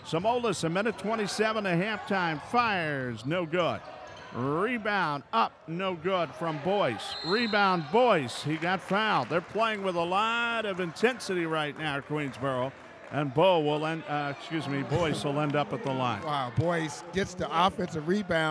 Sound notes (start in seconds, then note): 9.1 clapping